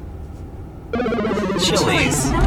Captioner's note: game over sound